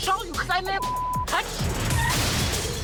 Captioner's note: beep; glass breaking